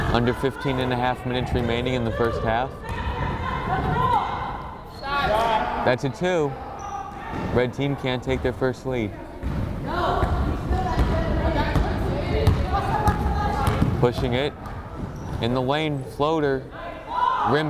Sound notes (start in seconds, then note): 3.1 players shouting; 10.8 crowd chattering